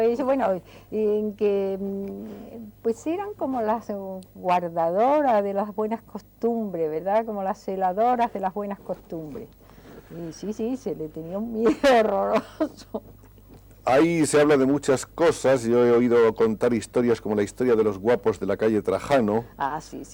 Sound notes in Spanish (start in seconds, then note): 11.6 risas